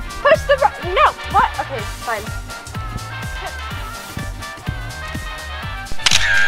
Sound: camera shutter click

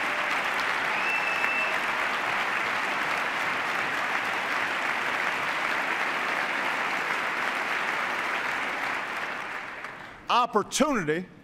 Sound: cheers, applause; sustained cheers and applause

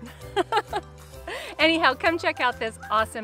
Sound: laughing

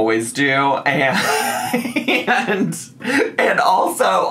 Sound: laughs

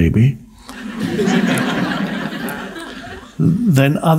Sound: audience laughs

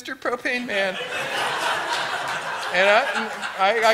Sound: laughter

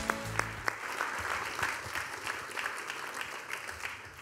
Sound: audience applauding

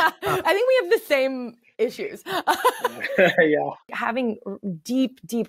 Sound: all laughing; laughing

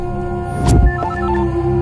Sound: phone rings

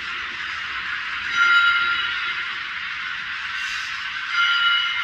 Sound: chime 2; chime 3; chime 4

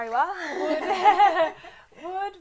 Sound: laughter

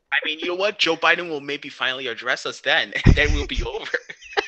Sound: sighs

